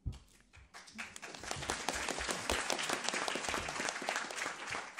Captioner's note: attendees applauding